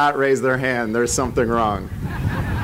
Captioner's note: laughter